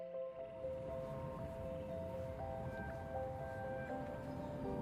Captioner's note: airplane engine roaring